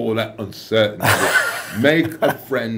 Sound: laughs

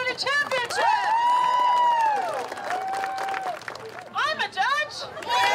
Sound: crowd cheering and clapping

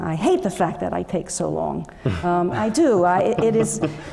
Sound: laugh

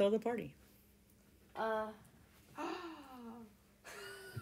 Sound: gasp

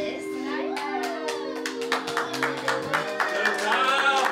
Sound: clapping, cheering

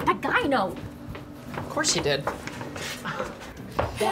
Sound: laugh

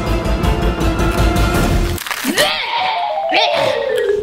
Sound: gagging

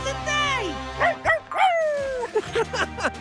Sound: howling; laughing

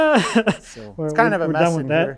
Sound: laughing

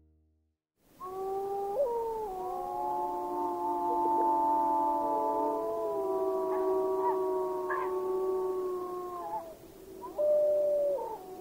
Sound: wolves howling

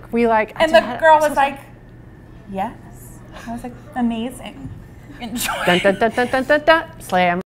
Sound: laughs

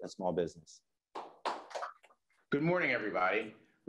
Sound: crowd applauds

